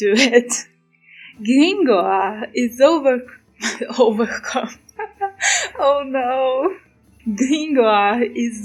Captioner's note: laughs